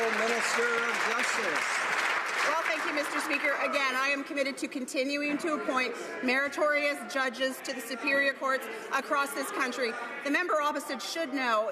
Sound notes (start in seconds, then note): 0.0 some Applause